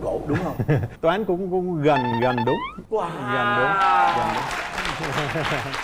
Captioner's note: applause